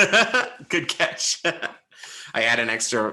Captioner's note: laughs